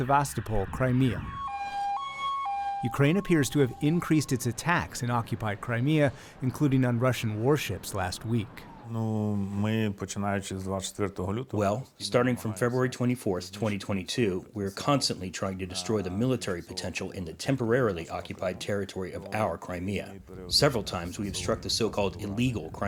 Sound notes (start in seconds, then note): 9.7 through translator